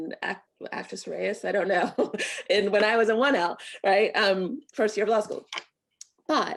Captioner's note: laughter